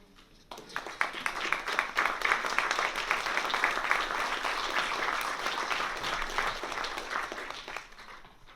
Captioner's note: applause